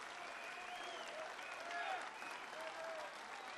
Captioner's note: applause